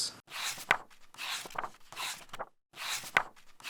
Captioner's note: pages turning